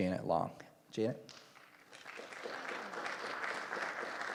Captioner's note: applause